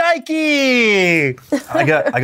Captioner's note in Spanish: ríe